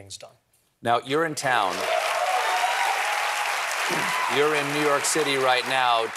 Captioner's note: cheers and applause